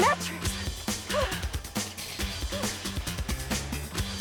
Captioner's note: panting